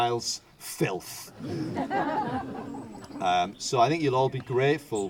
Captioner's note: audience laughter